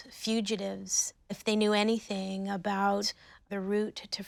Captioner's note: none